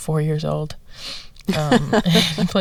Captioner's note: laughter